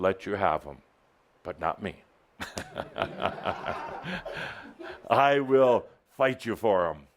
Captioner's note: Adamus chuckles